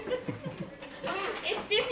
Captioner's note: laughing